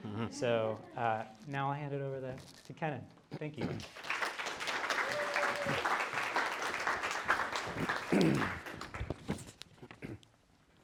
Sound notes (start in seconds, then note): 3.7 applause